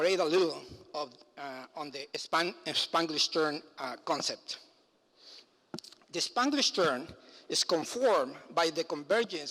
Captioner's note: foreign language